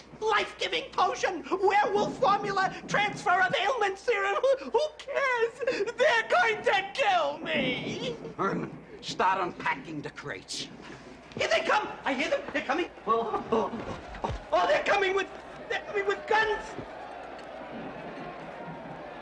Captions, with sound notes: Life-giving potion, werewolf formula, transfer-of-ailments serum-- Who cares? They're going to kill me! Herman, start unpacking the crates. Here they come! l hear them ! They're coming! Oh, oh! They're coming with--with guns! [Mob shouting in distance]